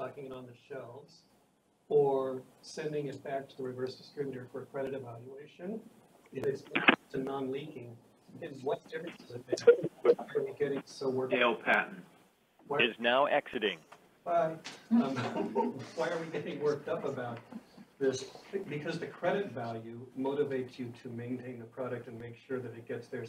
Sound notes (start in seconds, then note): 12.1 computerized voice; 15.1 all laughing